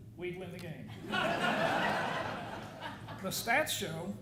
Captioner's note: audience laughing